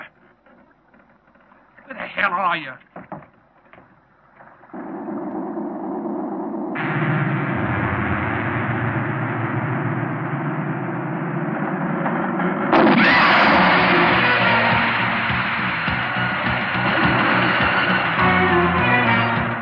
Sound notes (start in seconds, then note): 7.4 ominous music; 13.0 splashing; 15.0 tense music